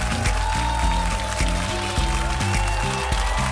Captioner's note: audience applauding; cheers and applause